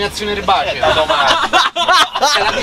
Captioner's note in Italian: laughing